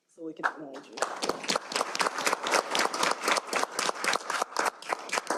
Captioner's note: applause